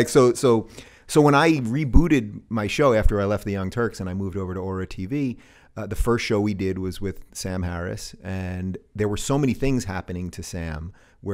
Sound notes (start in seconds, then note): none